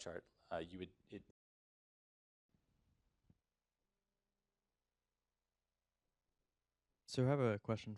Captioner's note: audio drop